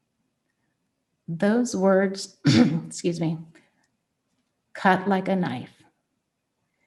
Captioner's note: clears throat